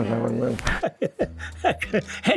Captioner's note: laughs